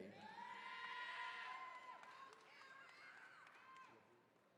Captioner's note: attendees cheering